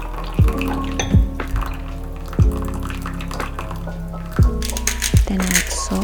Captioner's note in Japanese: 水のちょろちょろ音で落ち着く私